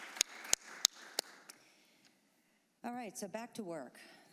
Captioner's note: applause